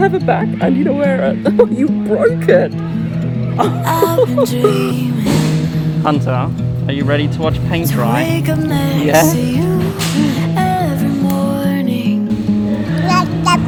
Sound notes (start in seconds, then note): 3.6 chuckles